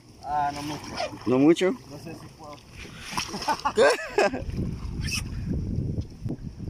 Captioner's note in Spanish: Riendo